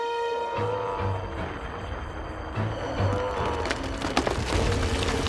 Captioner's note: rumbling